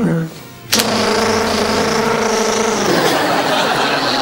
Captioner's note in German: Summen; Das Summen verlangsamt sich